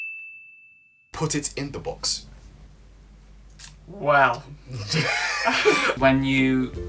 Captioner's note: laughter